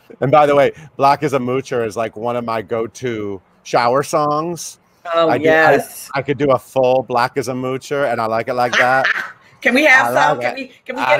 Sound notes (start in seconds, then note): 8.7 Tonya laughs